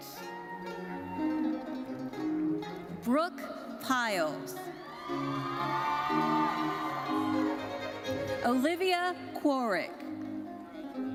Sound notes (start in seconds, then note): 0.1 orchestral music continues; 4.9 audience cheering and applauding; 10.9 orchestral music continues